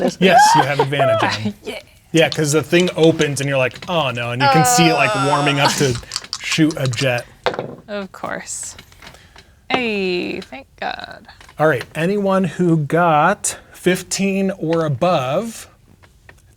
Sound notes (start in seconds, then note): 0.0 laughing; 5.2 dice rattling; 7.2 dice rolling